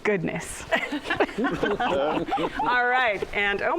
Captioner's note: laughter